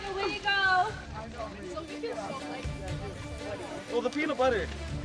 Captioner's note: quiet chattering